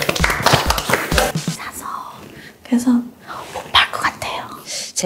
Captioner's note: Whispering